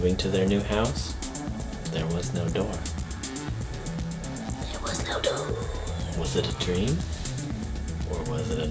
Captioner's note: whispers